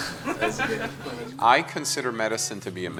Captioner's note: laughs